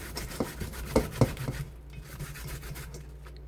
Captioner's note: rubbing